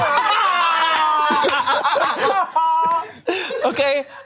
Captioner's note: group laughing